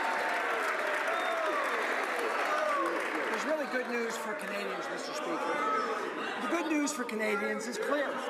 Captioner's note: some Applause